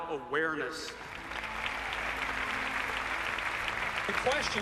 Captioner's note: cheers and applauses